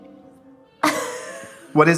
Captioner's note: laughing